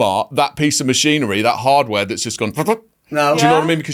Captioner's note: imitates machinery whirring